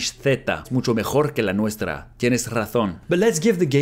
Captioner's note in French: répète la phrase en espagnol